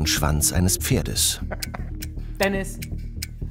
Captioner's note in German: Lachen